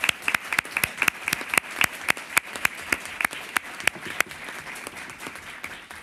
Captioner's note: applause